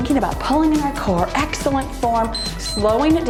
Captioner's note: timer beeps